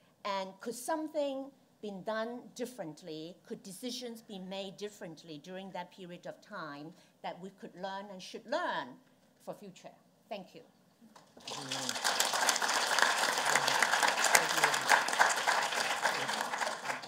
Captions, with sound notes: And could something been done differently, could decisions be made differently during that period of time that we could learn and should learn for future? Thank you. (applause)